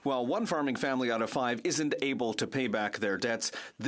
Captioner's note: speaking French